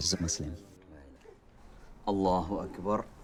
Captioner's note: non-english speech